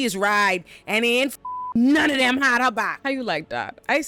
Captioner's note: beep